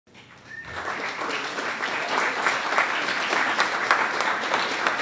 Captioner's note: applause